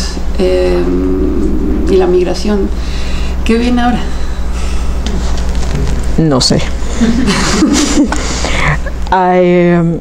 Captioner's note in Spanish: Risas